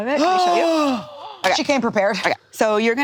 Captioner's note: all gasping